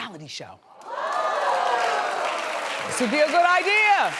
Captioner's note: audience cheers